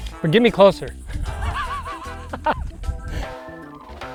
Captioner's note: laughing; fun upbeat music